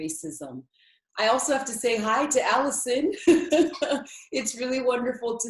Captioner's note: laughs